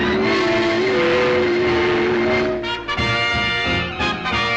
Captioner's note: machine whirring; dramatic music; triumphant music